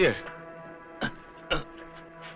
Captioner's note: grunts